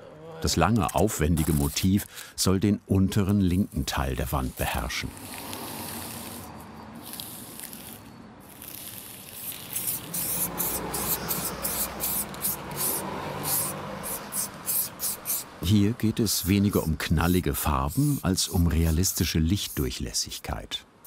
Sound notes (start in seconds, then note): 4.4 hissing sounds; 8.4 selective spraying noises